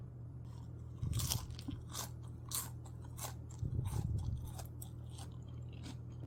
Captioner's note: crunchy